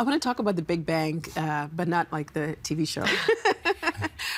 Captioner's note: laughing